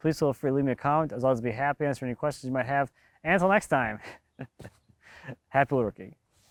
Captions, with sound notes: please feel free to leave me a comment. As always, I'd be happy to answer any questions you might have. And til next time, (laughs) happy wood working.